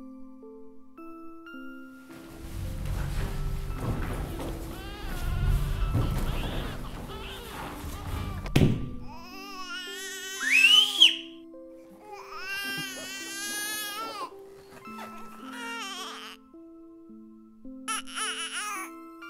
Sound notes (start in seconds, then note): 4.7 baby crying; 10.5 whistling loudly; 11.9 baby crying